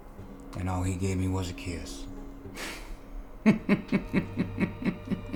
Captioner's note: laughing